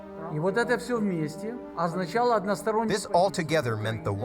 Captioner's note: speaking foreign language